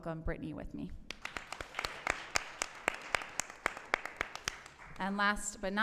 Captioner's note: applause